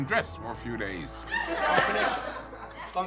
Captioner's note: audience laughs